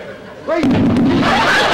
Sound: thump; audience laughter

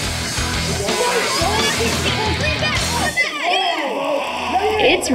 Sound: on-lookers yelling

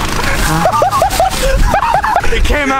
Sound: laughing

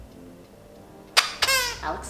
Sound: squeaks

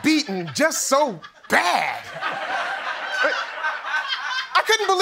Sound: laughter

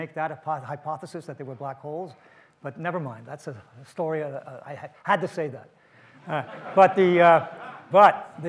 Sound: audience laughs

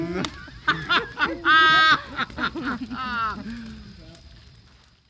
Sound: laughing

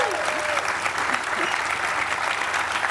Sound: applause

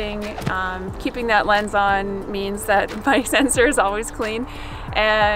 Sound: chuckles

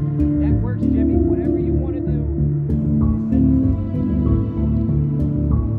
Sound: man speaks in faded tones

